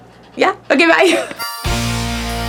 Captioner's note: laughs; upbeat rock music